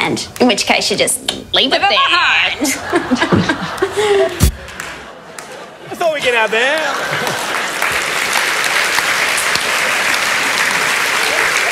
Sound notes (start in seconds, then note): 2.6 laughter; 8.5 applause